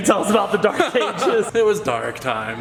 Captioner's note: laughs